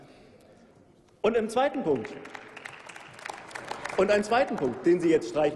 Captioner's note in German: Applaus